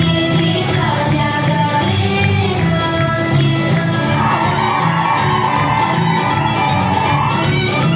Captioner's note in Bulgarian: аплодисменти